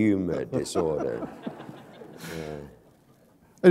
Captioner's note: laughter